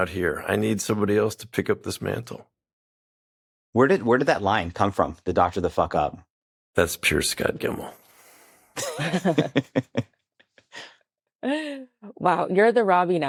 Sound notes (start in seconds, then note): 8.8 all laughing